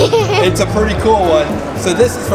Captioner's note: laughter